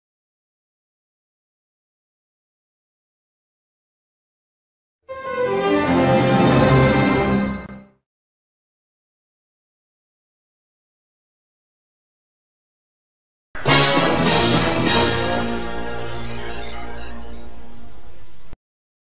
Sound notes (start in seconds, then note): 0.2 silence; 5.1 orchestral music playing; 8.8 silence; 13.6 creepy music plays